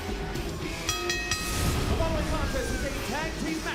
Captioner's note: bell ringing